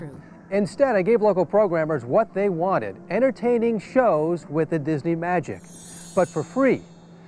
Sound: SFX chimes

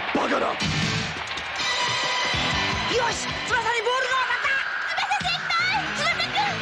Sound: applause

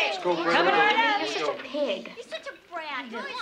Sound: children chattering

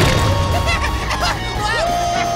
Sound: laughing

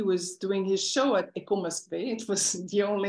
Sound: non-english speech

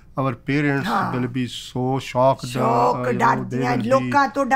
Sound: both speaking - a mix of English and Punjabi

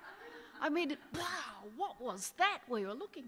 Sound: audience laughing

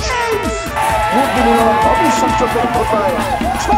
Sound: cheering

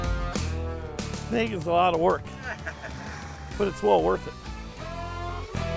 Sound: laughing

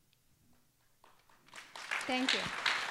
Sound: applause

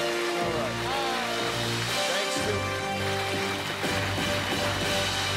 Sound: cheers and applause

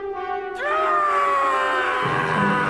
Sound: battle cry

